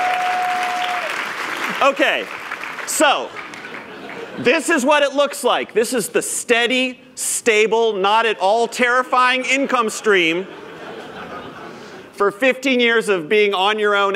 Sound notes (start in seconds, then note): 0.0 cheers; 0.0 applause